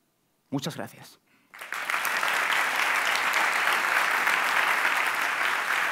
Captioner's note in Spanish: Aplausos